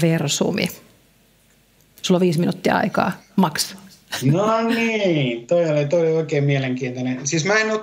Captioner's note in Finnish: naurahtaa